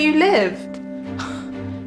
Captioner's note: gasps